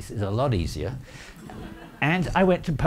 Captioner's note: audience laughing